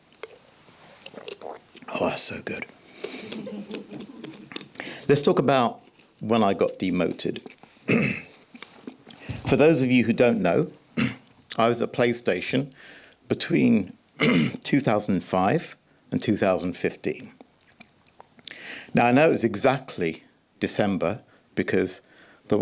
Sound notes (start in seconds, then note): 0.9 gulps; 3.2 laughter; 7.8 clears throat; 11.0 clears throat; 14.2 clearing throat; 18.4 gasps